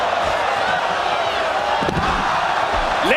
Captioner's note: applause